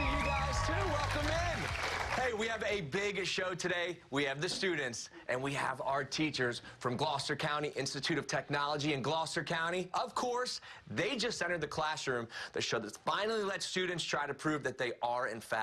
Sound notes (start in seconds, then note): 2.5 cheers and applause